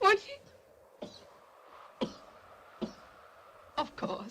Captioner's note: Joss coughs